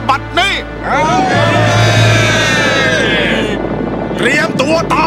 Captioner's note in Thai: เฮ